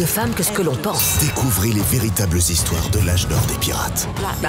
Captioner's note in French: Voix off